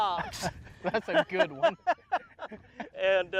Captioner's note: laughs